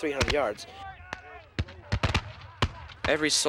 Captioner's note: firing rifles